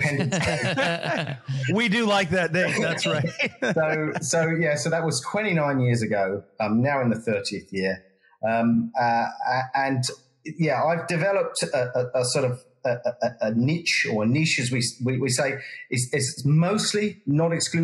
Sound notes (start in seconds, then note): 0.0 laugh